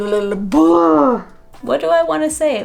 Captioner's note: sigh of despair